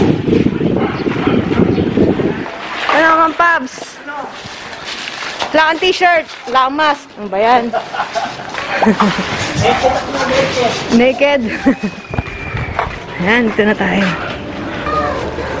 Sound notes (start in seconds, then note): 7.6 laughs